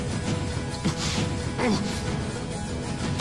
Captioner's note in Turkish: Acı çekme sesleri